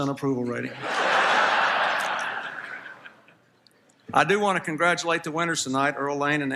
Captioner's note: laughter